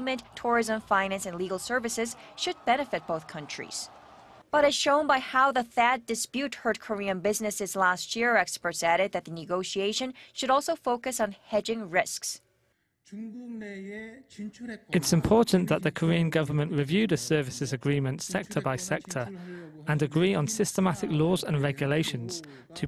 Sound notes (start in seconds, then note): 12.9 Korean